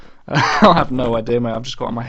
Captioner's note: laughs